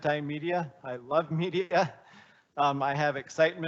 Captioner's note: laughing